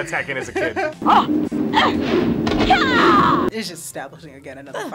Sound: woman grunting

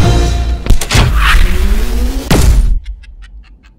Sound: sci-Fi Explosion

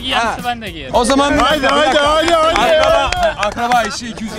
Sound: friends applauding around

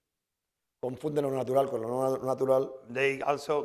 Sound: speaking spanish

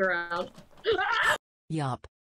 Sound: screams

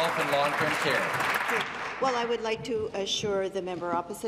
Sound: applause

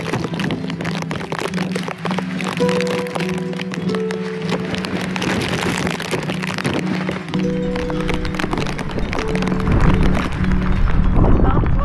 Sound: wind & rain

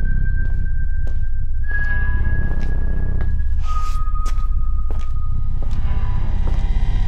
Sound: foot steps Approaching

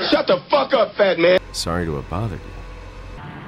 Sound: apologetically

